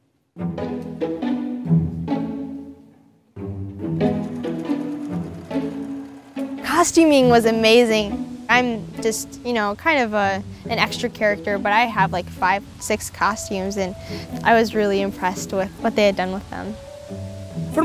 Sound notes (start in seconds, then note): 3.9 sewing machine whirring